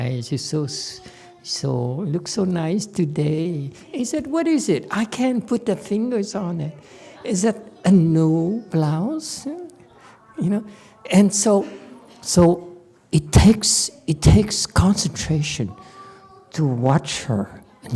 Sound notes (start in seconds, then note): none